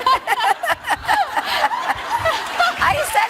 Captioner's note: laughing